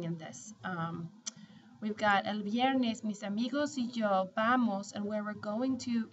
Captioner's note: speaking spanish